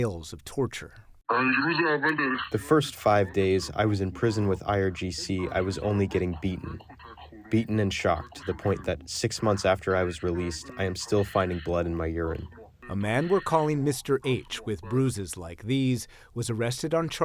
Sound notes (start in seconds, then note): 3.2 through translator